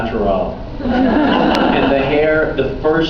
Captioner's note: laughs